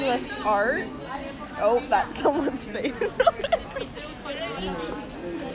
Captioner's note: laughing